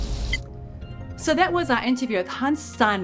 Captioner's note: remote beeps